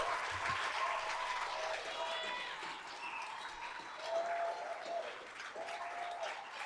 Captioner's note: applause